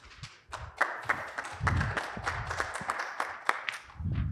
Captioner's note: applause